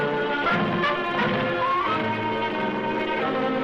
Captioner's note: sarcophagus thuds; suspenseful music